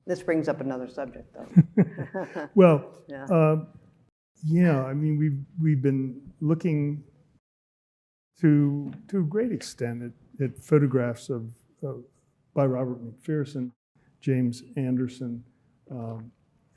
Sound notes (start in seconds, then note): 1.4 chuckling